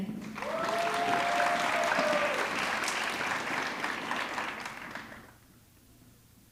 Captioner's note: audience clapping; audience cheering